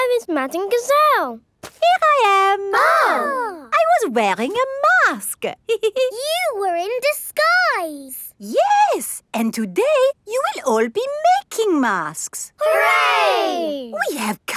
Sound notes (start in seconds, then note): 2.6 exclaiming; 5.6 giggles